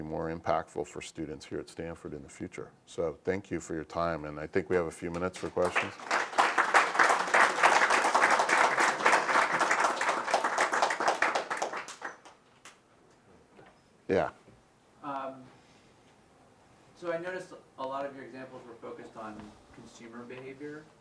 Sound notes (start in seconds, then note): 5.0 applause